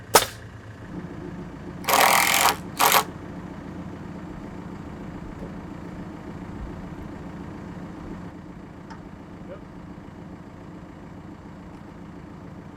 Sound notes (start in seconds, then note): 1.8 drill buzzing